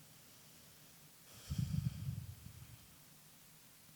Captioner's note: sighing